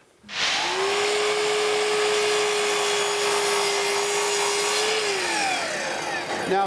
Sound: miter saw whirling

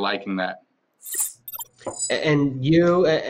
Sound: electronic chimes

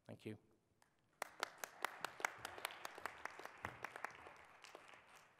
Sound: audience applauds

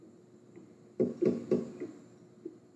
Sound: knocking at the door

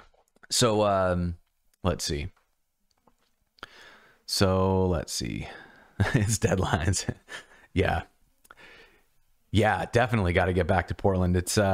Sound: laughter

